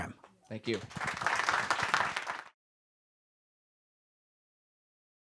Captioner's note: applause